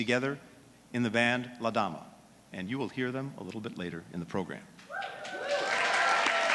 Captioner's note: applause